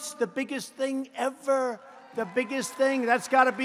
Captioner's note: applause